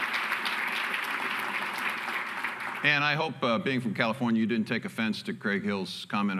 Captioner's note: applause